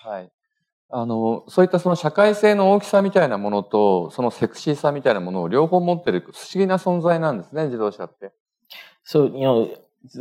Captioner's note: speaking japanese